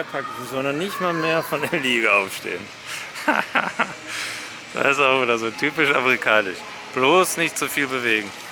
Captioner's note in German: Lacht